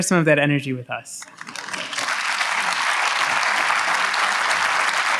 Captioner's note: audience applauds